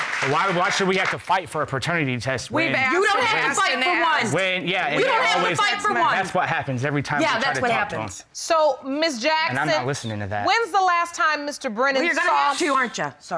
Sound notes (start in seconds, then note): 4.2 overlapping chatter